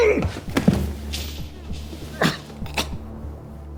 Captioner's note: Weston groaning; tense music